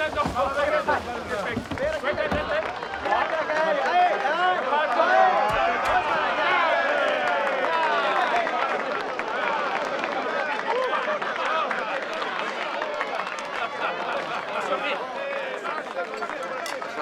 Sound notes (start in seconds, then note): 2.4 applause